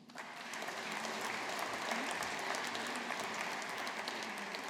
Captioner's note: audience applauding